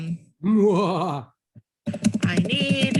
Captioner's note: evil laughing